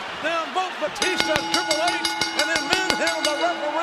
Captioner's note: bell dings